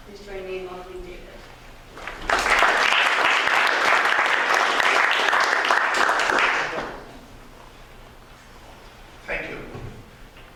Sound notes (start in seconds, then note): 2.0 applause